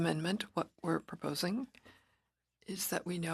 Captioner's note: speaking French